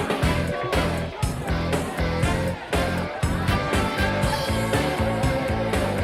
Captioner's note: group clamoring; upbeat music